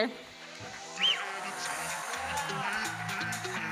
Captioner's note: audience member whistles